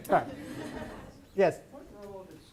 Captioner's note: audience laughs